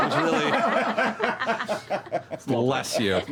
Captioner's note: laughter